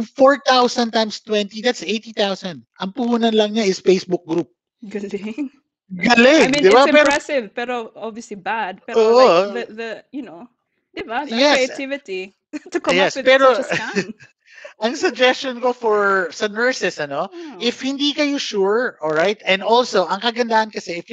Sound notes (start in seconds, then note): 6.0 laughs